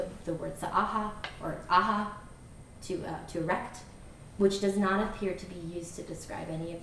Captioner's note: non-english